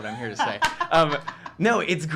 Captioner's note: laughter